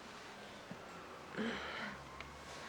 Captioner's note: sighing